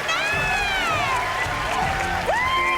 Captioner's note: cheering